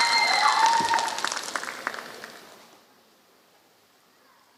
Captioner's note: applause